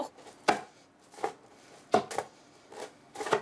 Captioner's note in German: Dumpfes Klopfen